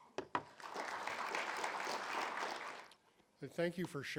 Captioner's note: audience clapping